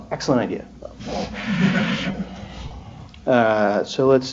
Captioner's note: laughter